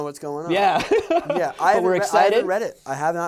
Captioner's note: laughs